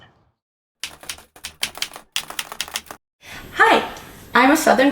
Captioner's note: keyboard keys clicking